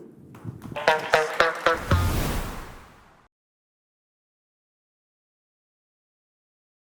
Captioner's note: audience clapping; upbeat music